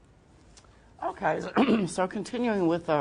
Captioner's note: clears throat